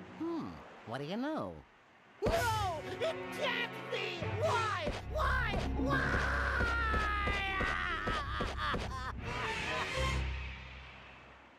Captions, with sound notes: HMM. WHAT DO YOU KNOW? NO! IT CAN'T BE! WHY? WHY! WHY! [crying]